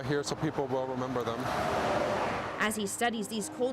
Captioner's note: truck drives